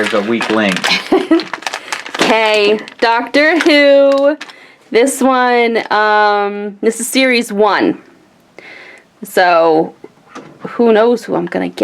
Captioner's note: laughs